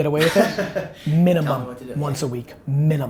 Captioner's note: laughs